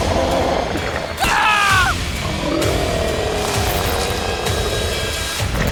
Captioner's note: Andrews screaming